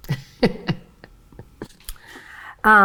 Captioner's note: laughs